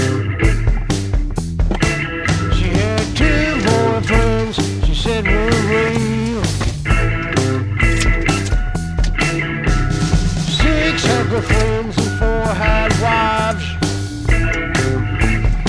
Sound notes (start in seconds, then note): 1.6 car door clatters open; 8.6 car alarm dings